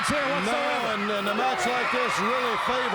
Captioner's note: crowd cheering